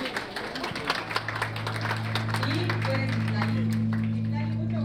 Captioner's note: aplausos